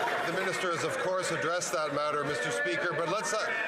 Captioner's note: some Applause